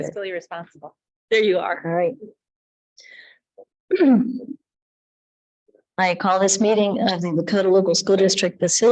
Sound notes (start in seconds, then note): 3.9 speaker clears throat